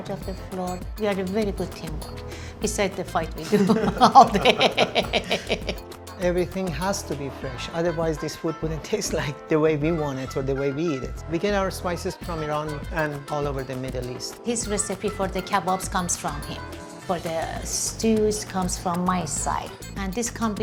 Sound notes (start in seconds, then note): 3.4 both laughing; 6.3 laughing